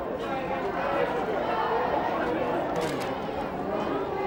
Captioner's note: crowd chattering